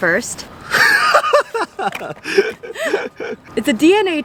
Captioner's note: laughing